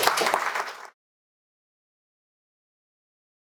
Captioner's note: applause